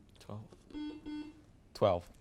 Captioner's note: buzzer beeps